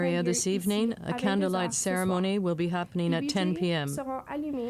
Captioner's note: speaking French